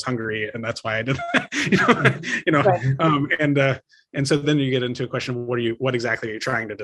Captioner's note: laugh